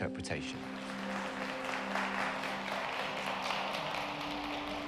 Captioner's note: audience applauds